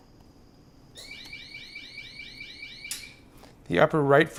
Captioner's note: alarm sounds